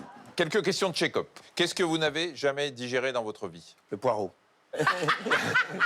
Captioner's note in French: rires